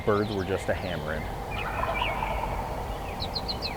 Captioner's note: bird sounds; turkey gobbles